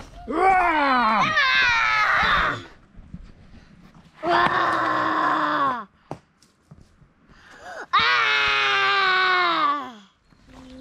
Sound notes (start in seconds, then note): 0.4 roars